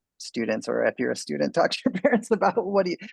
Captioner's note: man laughs